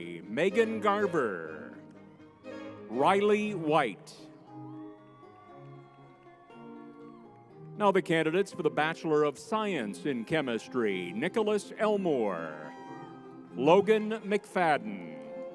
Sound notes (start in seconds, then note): 5.1 crowd cheering; 5.1 lively music